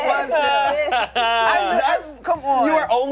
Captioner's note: laughs